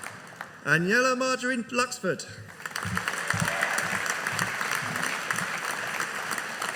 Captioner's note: audience applauding